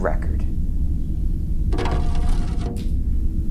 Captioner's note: cha-ching